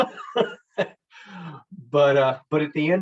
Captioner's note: chuckles